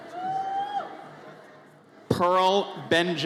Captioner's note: audience member cheers